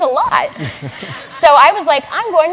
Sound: laugh

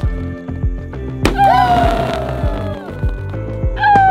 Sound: bursting sound

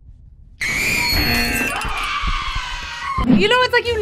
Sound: buzzer; people screaming; buzzer

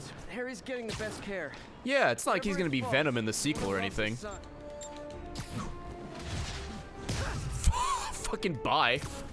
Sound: laughs

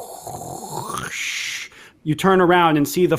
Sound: makes grinding sound

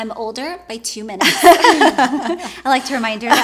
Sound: laughs

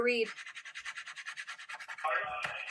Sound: scratching sound

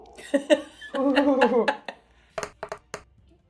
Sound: laughing

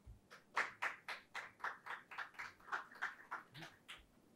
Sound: audience applauds

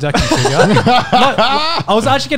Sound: laugh

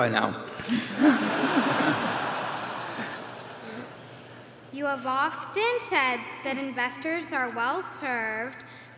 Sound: applause; laughter

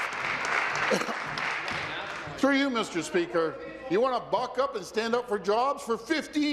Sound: applause

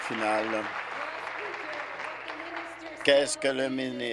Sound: applause

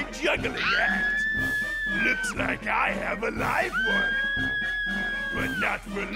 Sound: screaming

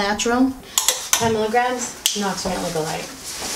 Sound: clicks

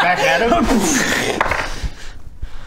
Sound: kr-booom

